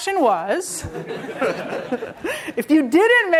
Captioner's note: laughter